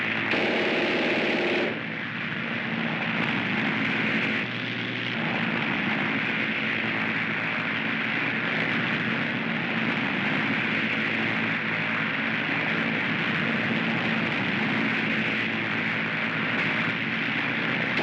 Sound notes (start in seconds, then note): 0.3 machine gun fires; 2.2 airplane rumbles